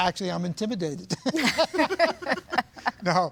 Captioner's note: laughing